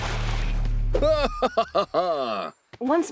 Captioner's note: cheers, laughs